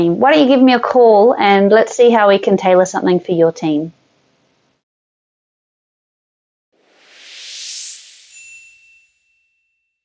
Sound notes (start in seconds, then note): 6.8 line wooshes; 8.3 bell dings